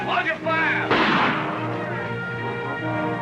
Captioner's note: gunshot